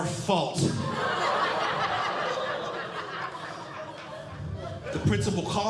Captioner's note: audience Laughing